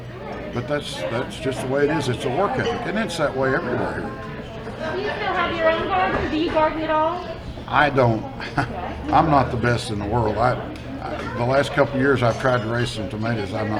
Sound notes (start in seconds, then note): 7.7 chuckles